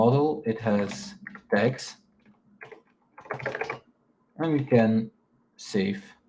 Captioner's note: keyboard clacking